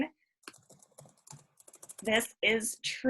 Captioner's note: keyboard clanking